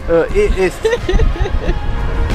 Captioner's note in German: lacht